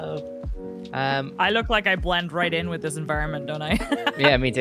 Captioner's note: laughs